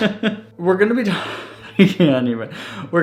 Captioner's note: laughs